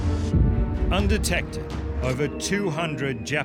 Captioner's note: bomb whistling